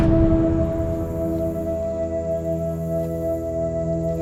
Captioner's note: bugs chittering